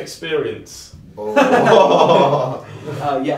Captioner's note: laughs